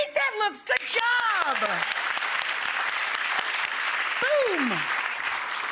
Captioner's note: audience applauds